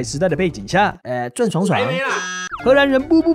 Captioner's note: buzzer